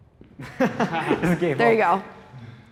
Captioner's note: everyone laughs